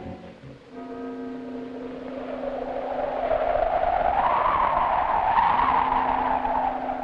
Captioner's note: dramatic music; wind howling; bell tolling